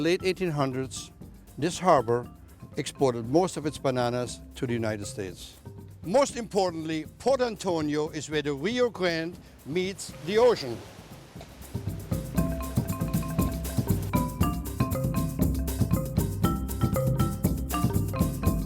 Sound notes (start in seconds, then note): 9.5 water</b> <b>splashing